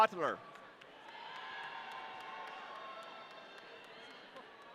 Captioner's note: audience cheering